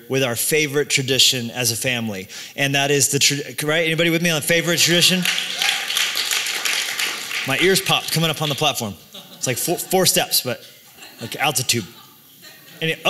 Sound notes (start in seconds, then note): 5.1 applause; 5.2 cheering